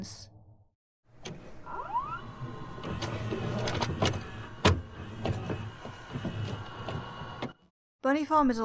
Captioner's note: VHS noises